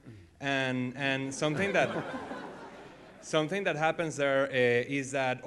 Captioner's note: laughter